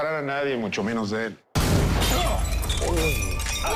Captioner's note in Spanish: Disparo